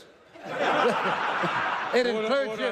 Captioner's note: laughter